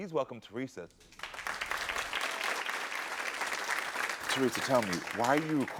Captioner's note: audience applauds